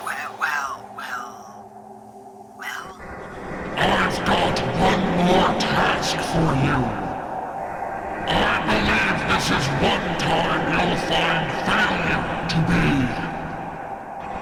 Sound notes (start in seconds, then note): none